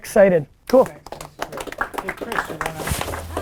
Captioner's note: group applause